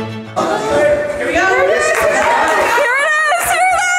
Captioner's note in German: Leute plaudern und klatschen